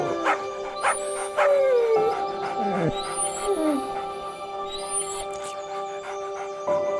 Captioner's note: Hank panting; whining; Clementine barking